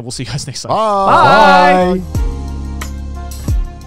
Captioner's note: all shouting; soft music